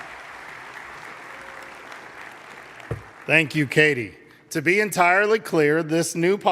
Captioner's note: applause